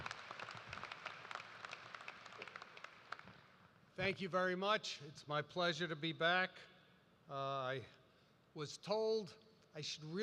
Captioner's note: applause